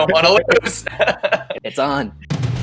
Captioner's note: all chuckling